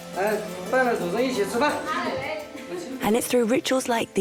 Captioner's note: hablan un idioma extranjero